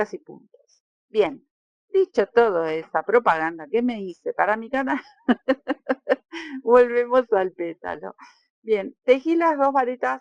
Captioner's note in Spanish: risas